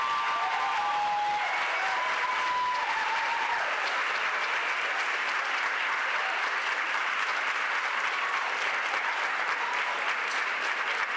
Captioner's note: applause